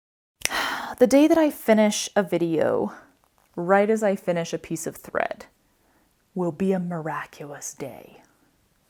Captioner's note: sigh